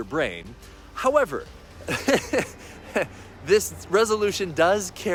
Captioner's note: laughs